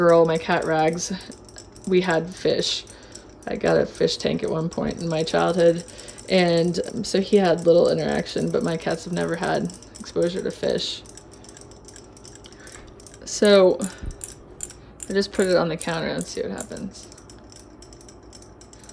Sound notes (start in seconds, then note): 16.2 toy clicking